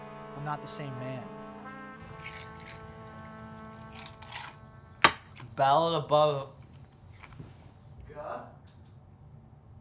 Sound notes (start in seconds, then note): 2.1 ice cubes rattle